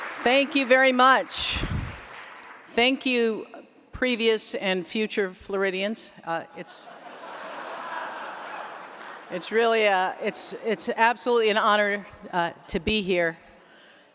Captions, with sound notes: Thank you very much. Thank you, previous and future Floridians, it's [Laughter] it's really a, it's it's absolutely an honor to be here.